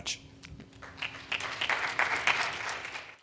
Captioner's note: audience clapping